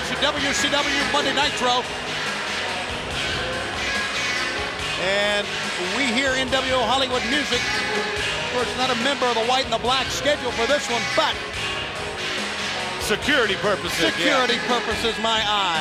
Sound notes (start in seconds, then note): 1.1 crowd chatter